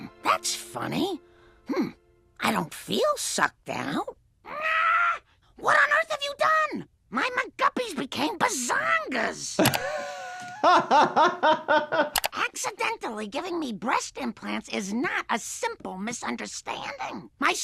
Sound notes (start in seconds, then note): 9.6 doctor laughing